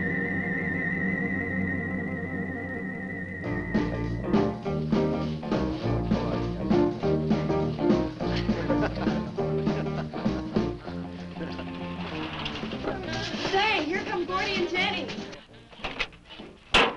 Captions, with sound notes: (upbeat jazz music) (laughing) - Say, here comes Gordy and Jenny.